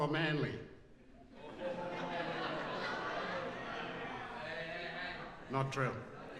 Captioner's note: laughs